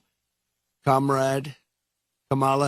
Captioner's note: habla en ingés